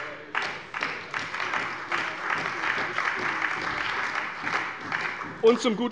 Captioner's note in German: Beifall bei der CDU und dem BÜNDNIS 90/DIE GRÜNEN